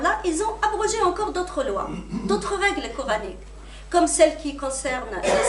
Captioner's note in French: raclement de gorge